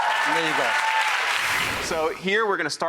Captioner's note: audience clapping